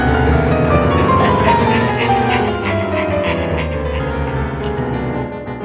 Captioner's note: faint echo of the emperor cackling in the background